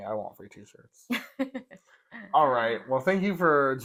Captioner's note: laugh